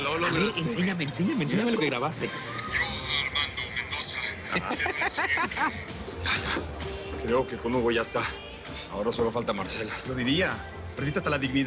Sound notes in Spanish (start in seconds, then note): 4.2 Risas